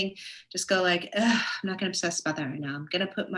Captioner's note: sighs